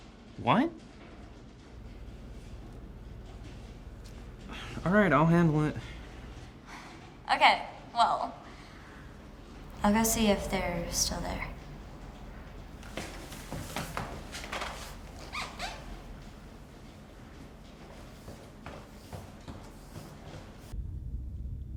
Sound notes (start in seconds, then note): 4.4 sighs; 6.8 sighs; 12.5 rain pattering; 15.3 shoes squeak; 18.4 footsteps tapping